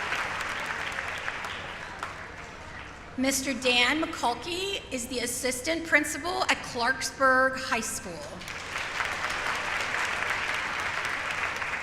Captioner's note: applause